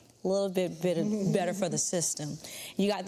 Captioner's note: Vernee chuckles